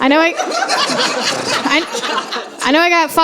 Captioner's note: laughter